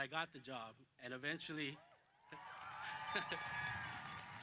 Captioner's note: applause